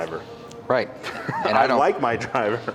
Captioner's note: chuckling